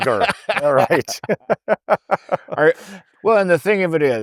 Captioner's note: laughing